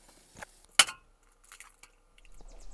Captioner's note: egg cracks